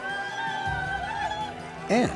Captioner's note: cheering